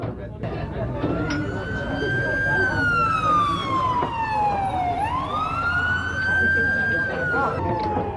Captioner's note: police sirens